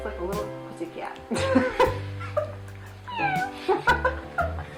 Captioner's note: laughing